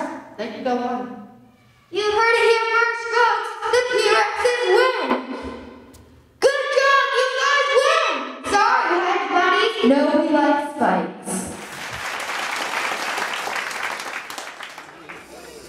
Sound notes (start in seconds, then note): 11.5 applause